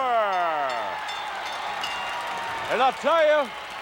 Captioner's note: audience cheering; bell rings